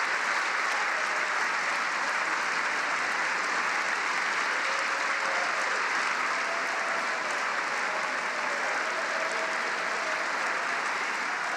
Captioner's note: cheering and applause